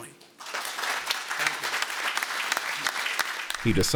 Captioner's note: applause